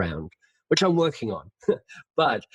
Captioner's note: laughs